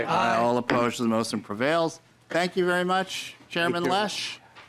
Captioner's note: chorus of ayes